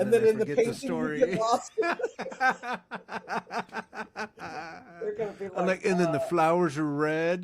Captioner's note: laughing